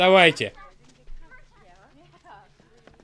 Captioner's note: chatter